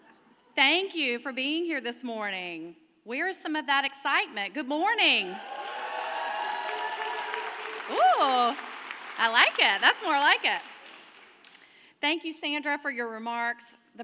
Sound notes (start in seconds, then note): 5.1 audience cheering